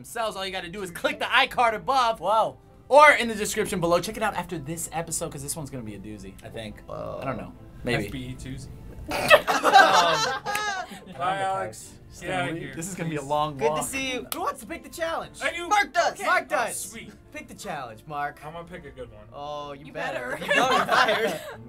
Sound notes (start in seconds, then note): 9.0 snorting and laughter